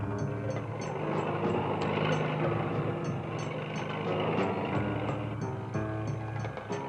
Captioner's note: engine revving